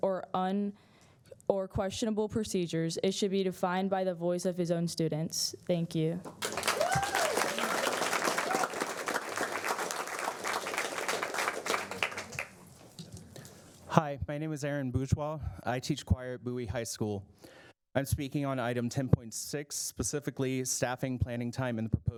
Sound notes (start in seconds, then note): 13.0 applause